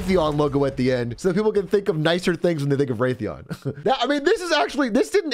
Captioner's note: laughs